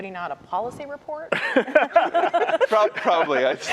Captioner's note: laughter